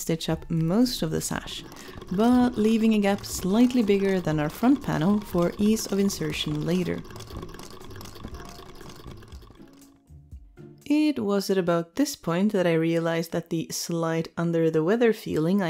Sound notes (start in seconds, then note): 7.3 sewing machine whirring